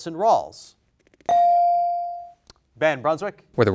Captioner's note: bell rings